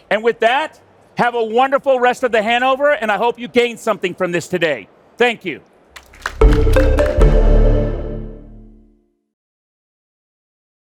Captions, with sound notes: And with that, have a wonderful rest of the Hannover. And I hope you gained something from this today. Thank you. (audience clapping) (upbeat music)